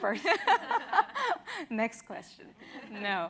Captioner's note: laughs